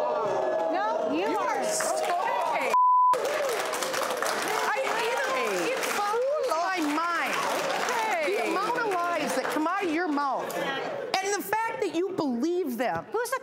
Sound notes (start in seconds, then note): 0.0 audience gasping; 2.7 beep; 3.1 audience applauding